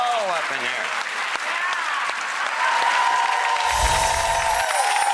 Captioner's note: applause